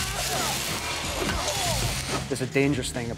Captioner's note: groans